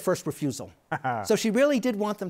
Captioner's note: chuckles